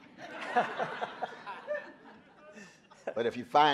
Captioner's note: audience laughing